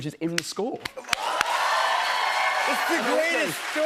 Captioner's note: cheers and applause